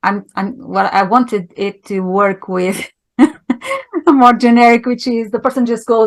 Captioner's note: laughing